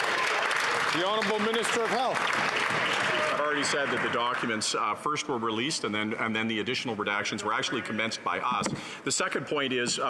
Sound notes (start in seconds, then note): 4.1 some Applause